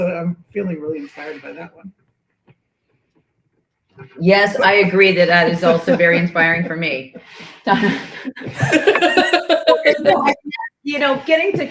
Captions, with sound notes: I'm feeling really inspired by that one. Yes, I agree that that is also very inspiring for me. [laughter]